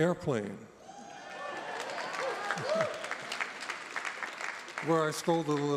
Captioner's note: audience applauding